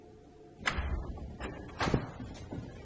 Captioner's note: door opening